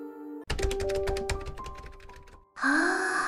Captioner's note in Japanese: キーボードの操作音